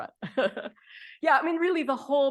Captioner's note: laughing